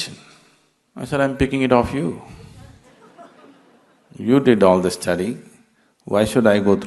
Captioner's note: laughter